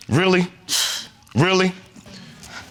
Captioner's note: scoffs